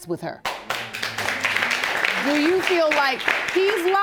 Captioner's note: audience applauding